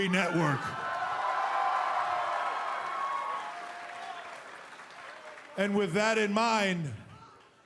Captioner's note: cheers & applause